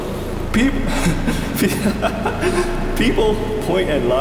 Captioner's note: laughter; breath